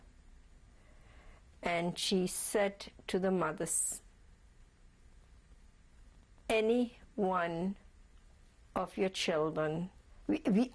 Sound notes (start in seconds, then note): 5.0 pauses for 3 seconds